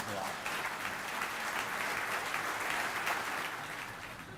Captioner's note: audience applauding